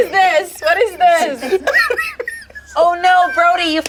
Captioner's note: laughs